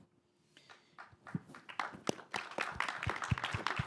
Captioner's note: applause